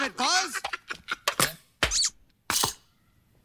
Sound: hysterical chuckling, squeaks

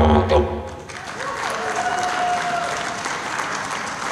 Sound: applause

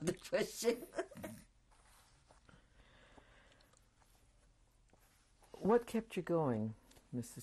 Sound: laughs

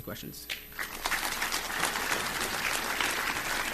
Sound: applause

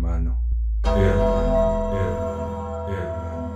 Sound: echoes

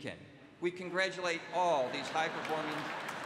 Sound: laughter

